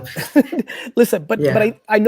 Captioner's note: laughs